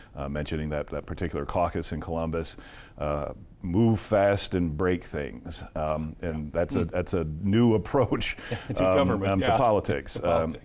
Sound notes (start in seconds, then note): 8.4 laughs